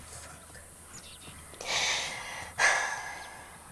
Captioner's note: Whispers